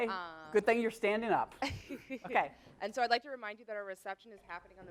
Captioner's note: laugh